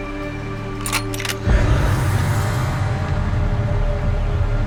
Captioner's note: gun clicks